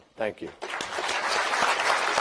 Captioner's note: applause